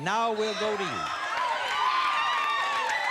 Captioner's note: cheers and applause